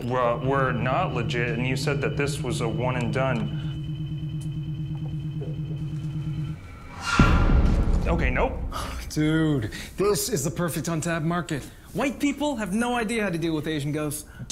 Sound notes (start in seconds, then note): 7.0 scary noise